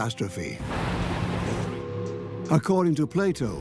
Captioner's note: thunder claps